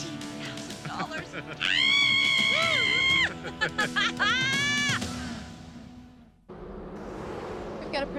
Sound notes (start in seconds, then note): 0.8 Jill screams and laughs